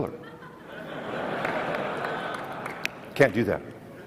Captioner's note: audience laughs